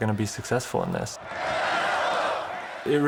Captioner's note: crowd cheering and chanting